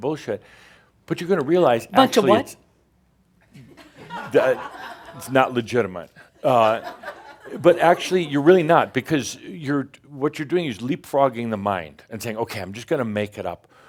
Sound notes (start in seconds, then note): 3.9 some chuckles; 6.4 more chuckles